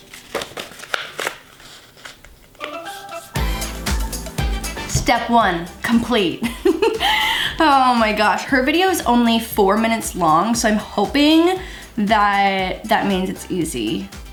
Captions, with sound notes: (upbeat music) Step one complete. (laughs) Oh my gosh. Her video's only four minutes long so I'm hoping that that means it's easy.